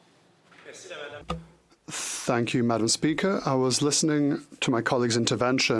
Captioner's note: speaking French